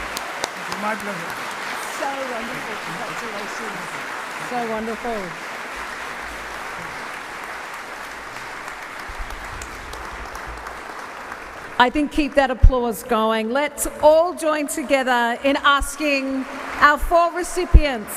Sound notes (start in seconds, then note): 7.6 applause